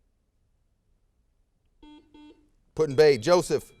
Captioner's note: buzzer sounds